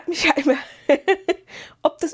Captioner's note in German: gelächter